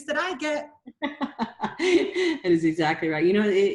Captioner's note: laughter